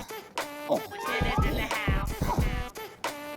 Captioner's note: super excited steps